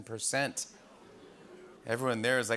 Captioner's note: oohs and ohs